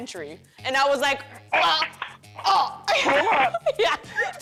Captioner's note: grunting; laughter